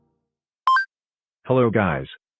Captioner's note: coin sound flickers